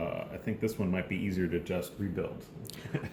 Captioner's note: laughter